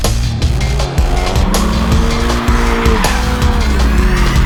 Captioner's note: engine revs; tires squealing